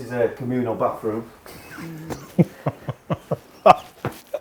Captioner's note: laughs